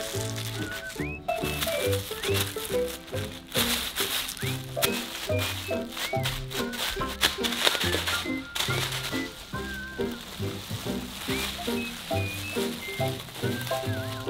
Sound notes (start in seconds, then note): 4.3 chewing gum